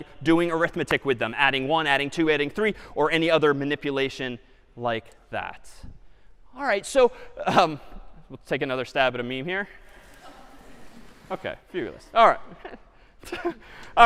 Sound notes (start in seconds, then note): 7.0 chuckle